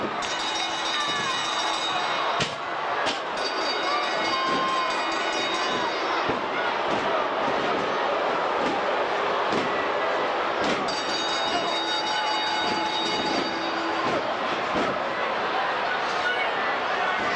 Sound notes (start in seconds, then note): 0.0 crowd chattering; 0.0 stage clattering; 0.0 bell ringing; 7.0 crowd booing; 7.0 stage clattering; 10.8 bell ringing; 12.2 crowd chattering